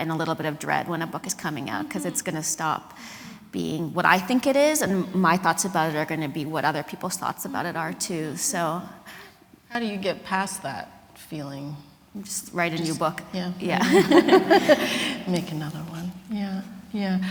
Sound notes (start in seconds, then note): 13.6 laughing